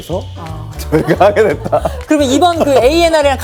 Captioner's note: laughs